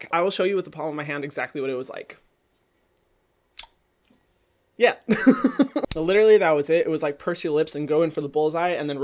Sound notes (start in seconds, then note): 3.5 smacking lips; 5.2 laughs